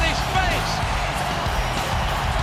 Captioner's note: crowd cheering